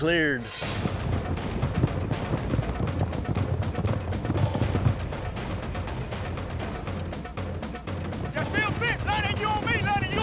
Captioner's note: galloping